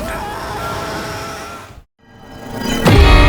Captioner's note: screaming